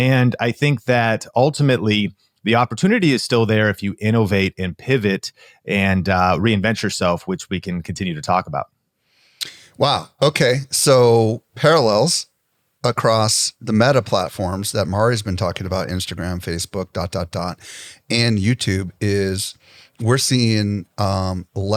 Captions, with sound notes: And I think that ultimately, the opportunity is still there if you innovate and pivot and, uh, reinvent yourself, which we can continue to talk about. (smacks lips) Wow. Okay. So parallels across the meta platforms that Mari's been talking about, Instagram, Facebook, dot, dot, dot, and YouTube, is we're seeing, um,